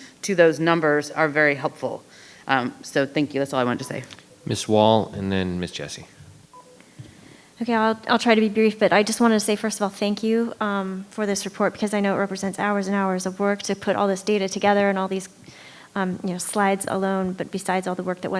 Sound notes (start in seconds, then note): 6.1 microphone beeping